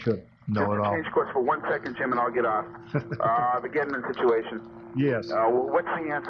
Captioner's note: laughter